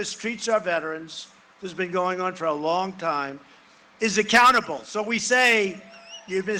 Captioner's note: cheering and applause